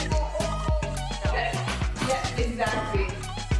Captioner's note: indistinct chatter